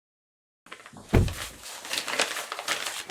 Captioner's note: door closes